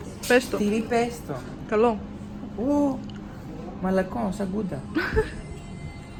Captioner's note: giggles